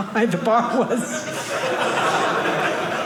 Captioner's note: audience laughing